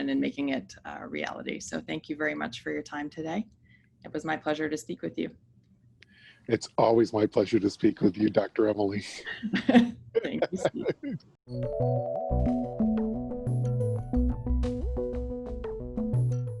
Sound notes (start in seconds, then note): 10.1 laugh; 11.5 upbeat dramatic music